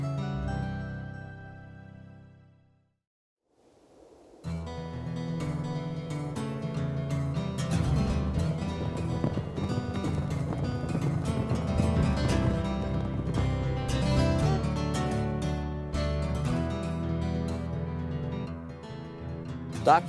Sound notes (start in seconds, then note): 4.5 wind; 4.6 guitar music